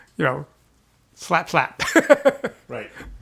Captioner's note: chuckles